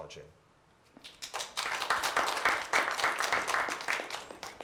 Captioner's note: applause